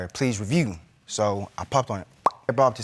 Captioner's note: pops